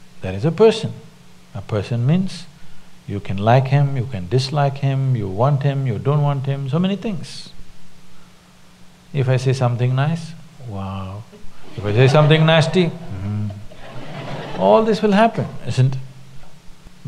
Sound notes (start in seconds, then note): 11.7 laughter